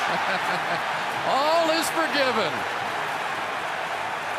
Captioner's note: laughs